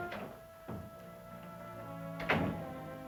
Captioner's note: door closing